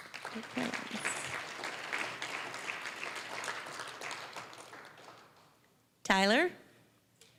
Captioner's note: applause